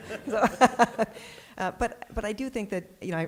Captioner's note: laughter